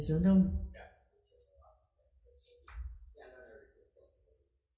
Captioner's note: background chatter